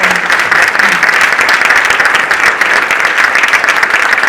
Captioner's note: audience applauding